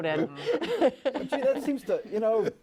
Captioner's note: laughter